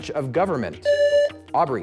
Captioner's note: buzzer